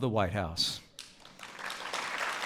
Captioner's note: applause